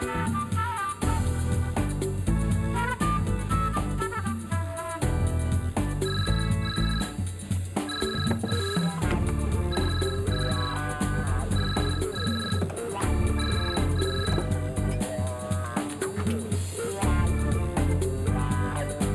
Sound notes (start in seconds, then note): 6.3 phone ringing; 9.8 upbeat music